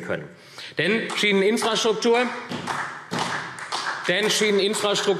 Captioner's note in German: Vereinzelter Beifall SPD